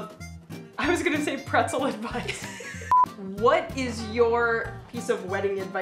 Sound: laughter

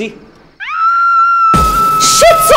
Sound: screams

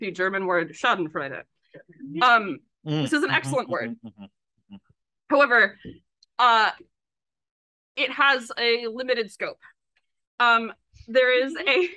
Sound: laughs

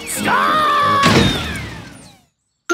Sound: thuds

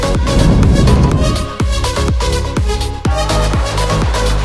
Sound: water splashing; volcano rumbling

